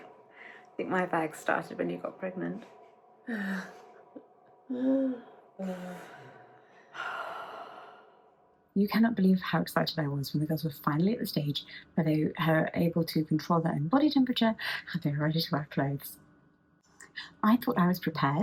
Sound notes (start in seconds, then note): 3.3 laughs; 5.5 sighs